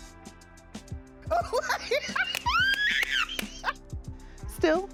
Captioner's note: laughs